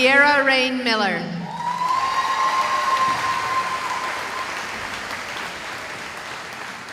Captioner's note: cheering